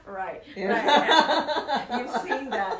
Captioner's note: laughs